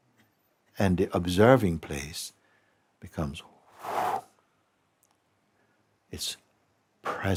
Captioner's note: mélyen kilélegzik